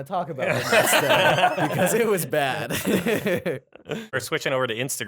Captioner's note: laughter